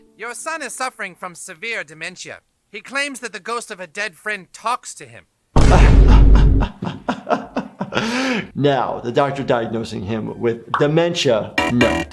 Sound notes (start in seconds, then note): 5.6 laughs